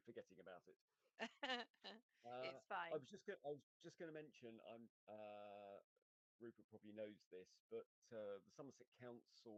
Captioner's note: laughter